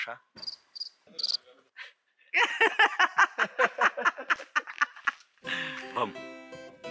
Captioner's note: laughs